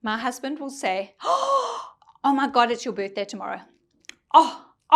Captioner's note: gasps